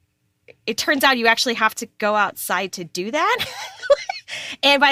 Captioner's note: laughs